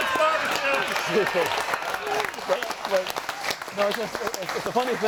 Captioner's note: audience applauds